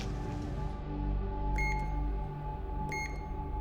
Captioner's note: beeping